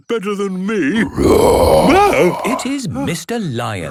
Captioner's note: loud roar